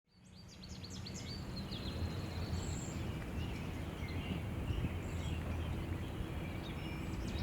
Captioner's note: birds chirping